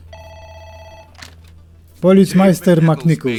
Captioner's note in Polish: telefōn zwōni